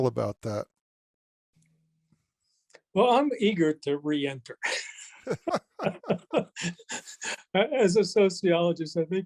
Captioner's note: both laugh